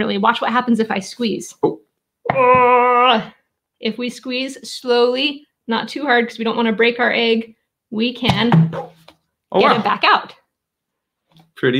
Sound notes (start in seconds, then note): 2.3 exclaiming; 8.3 egg pops